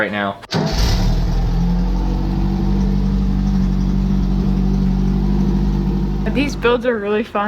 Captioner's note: starts engine